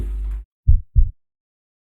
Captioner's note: heartbeat